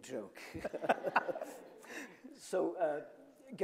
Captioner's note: both chuckling